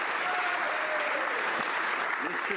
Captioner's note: some Applause